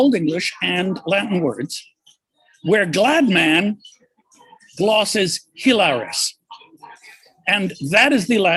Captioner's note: non-english